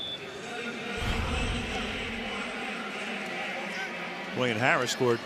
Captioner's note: pa announcement